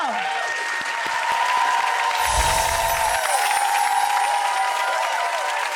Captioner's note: crowd cheering